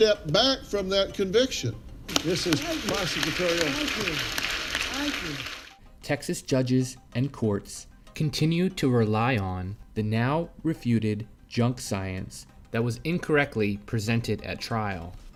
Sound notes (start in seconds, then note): 2.1 audience applause